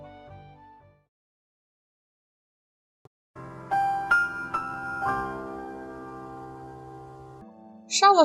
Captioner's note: the more you know sound